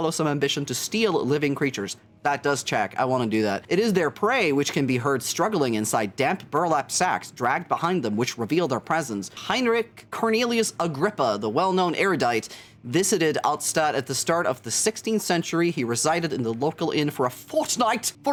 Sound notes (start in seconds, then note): none